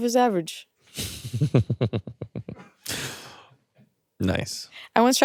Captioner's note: chuckles